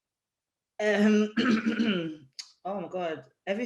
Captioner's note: clears throat